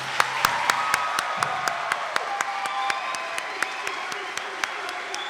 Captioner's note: audience applauding